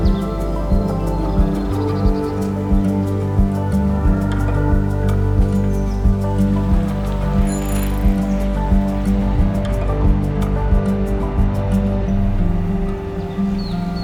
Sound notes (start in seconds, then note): 6.7 river flowing; 7.3 bicycle bell